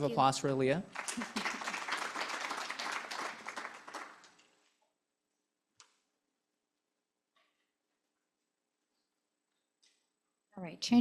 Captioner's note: applause